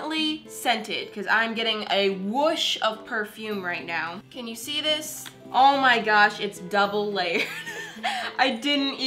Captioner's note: laughs under breath